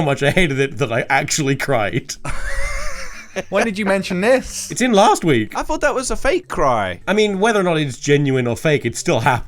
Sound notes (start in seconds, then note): 2.2 laughs